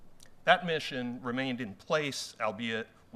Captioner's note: none